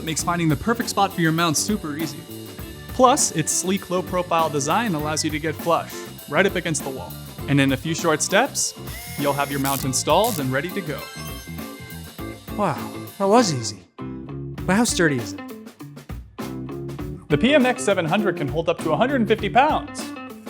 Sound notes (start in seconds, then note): 8.8 drill whirls